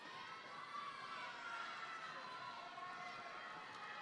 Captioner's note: none